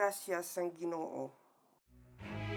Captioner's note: speaking in a foreign language